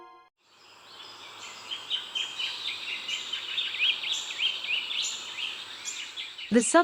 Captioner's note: birds chirping